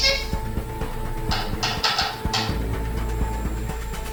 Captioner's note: tapping